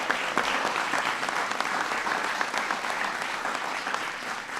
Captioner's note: applause